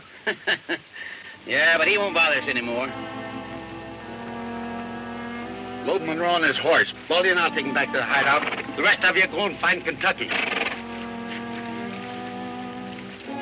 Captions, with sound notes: - (chuckles) Yeah, but he won't bother us anymore. - Load Munro on his horse. Load him and I'll take him back to the hideout. The rest of you go and find Kentucky. (horse snorts)